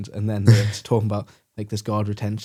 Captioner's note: laughs